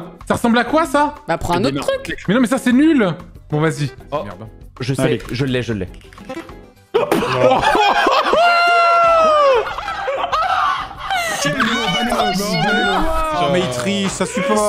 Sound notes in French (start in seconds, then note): 9.3 entre deux rires